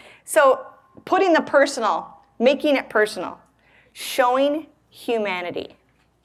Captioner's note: none